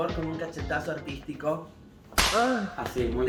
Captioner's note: slap, groan